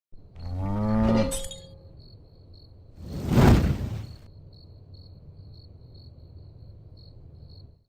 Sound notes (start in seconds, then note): 0.4 cow mooing; 4.6 crickets chirping